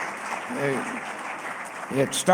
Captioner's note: applause